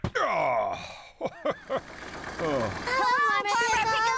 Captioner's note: chuckling